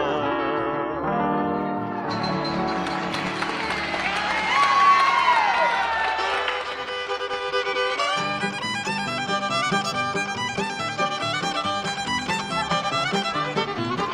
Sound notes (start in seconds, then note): 2.1 music ends, applause; 6.0 fiddle music